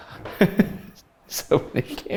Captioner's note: chuckles